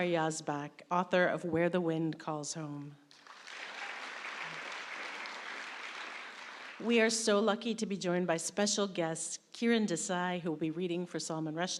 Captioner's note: applause